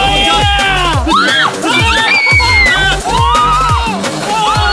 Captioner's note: screaming